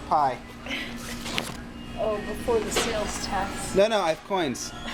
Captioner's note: laughs